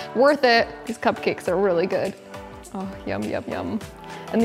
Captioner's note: none